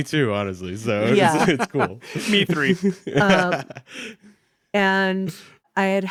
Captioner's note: chuckles